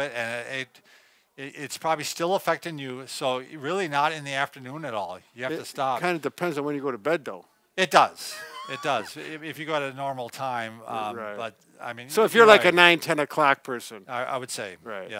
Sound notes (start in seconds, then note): 8.2 laughs